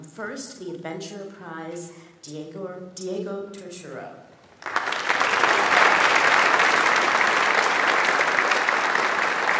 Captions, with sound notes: First, the Adventurer Prize. Diego Turturro. (audience applauds)